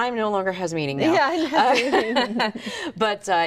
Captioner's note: both laughing